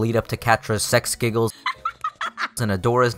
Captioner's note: Catra's adorable laugh